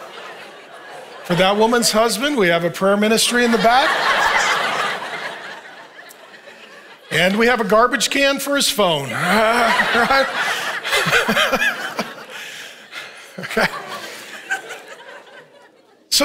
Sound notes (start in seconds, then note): 4.1 congregation laughing; 8.7 congregation laughing